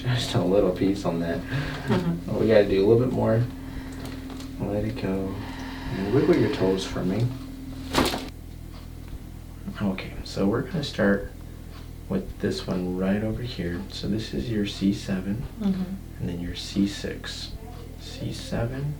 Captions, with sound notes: Just a little piece on that. We gotta do a little bit more. Let it go. Wiggle your toes for me. (cracking noises) Okay. So we're going to start with this one right over here. So this is your C7 and then your C6, C7, C6.